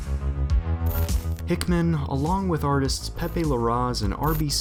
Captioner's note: voiceover